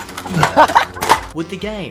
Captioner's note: laughing